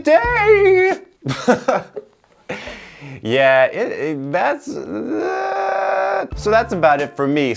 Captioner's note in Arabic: يضحك